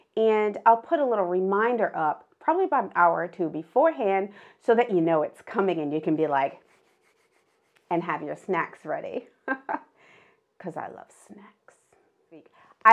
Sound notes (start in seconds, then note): 6.5 rubbing hands